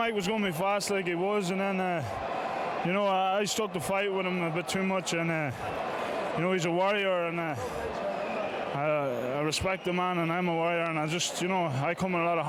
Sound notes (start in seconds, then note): 0.0 applause; 7.2 applause